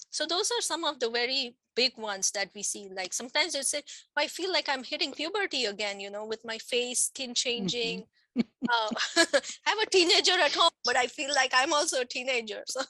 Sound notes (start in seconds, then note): 8.4 laughs